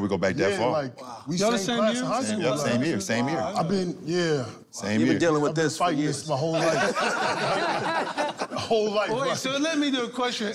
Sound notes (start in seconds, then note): 6.5 laughter